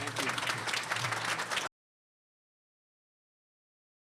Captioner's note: applause